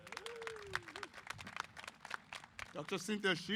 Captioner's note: applause